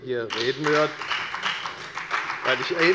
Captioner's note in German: Beifall bei der FDP